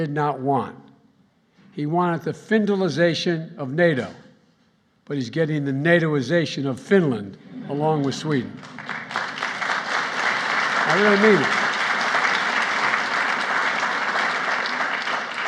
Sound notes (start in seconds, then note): 7.4 laughter; 8.0 applause